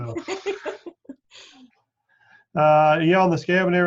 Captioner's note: laughs